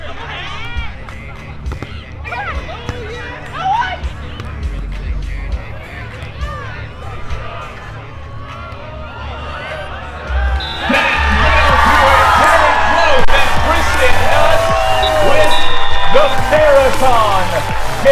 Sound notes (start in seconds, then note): 3.5 players communicating